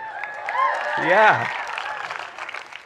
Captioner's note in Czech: studenti jásají